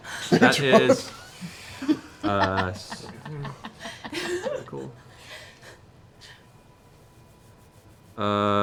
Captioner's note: laughter